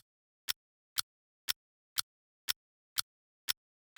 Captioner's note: clock ticking